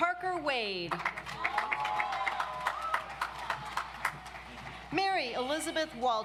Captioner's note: audience applauds